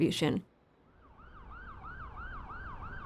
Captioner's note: siren howling